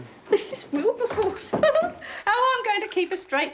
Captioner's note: giggles